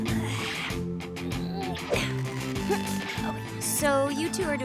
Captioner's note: grunting